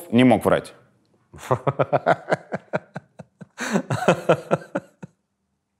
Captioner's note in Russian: смеётся